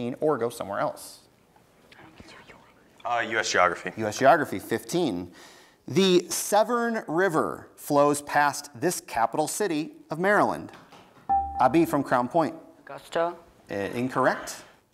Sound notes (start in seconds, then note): 2.1 team whispers; 11.3 buzzer beeps